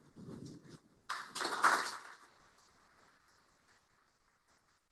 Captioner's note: applause